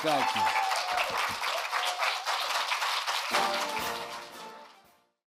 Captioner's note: applause